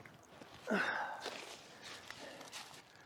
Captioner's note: sighs